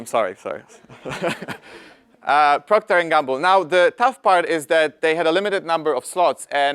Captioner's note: laugh